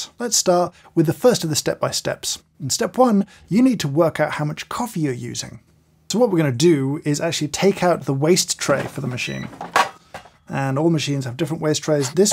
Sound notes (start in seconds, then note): 8.8 machine beeps